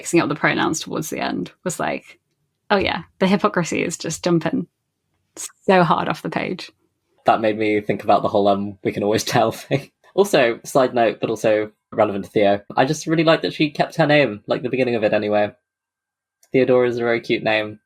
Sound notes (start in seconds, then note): 7.3 laughing